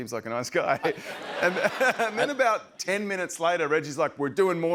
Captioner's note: laughter